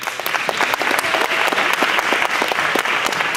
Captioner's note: clapping